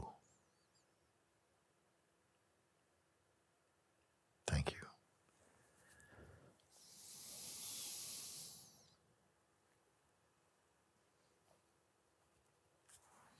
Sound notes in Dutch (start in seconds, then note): 7.7 stilte